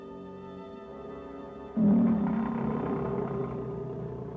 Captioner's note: cats growling